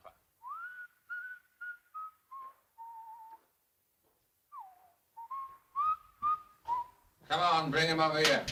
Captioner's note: Harry whistling